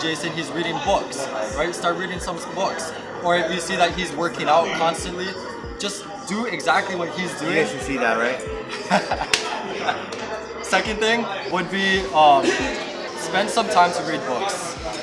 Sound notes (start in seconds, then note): 8.6 laughs